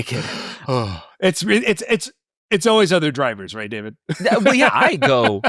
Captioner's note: laughing; laughs